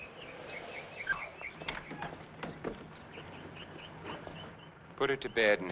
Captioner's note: door squeaking